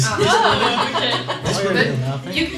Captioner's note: laughs